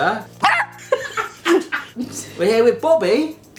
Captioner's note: dog yaps